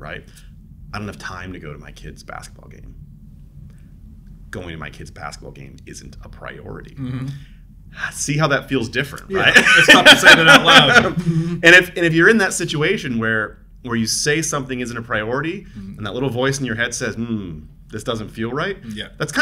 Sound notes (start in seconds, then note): 9.3 both laughing